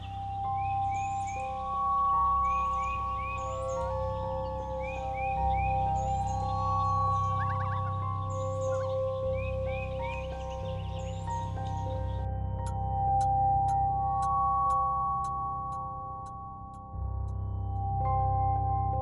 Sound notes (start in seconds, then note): 0.2 eerie music; 3.8 loon warbling; 12.6 clock ticking